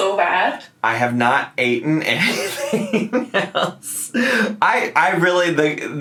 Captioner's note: laughs